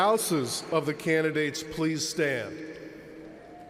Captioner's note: cheers and applause